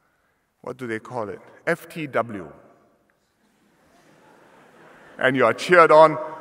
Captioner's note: laughter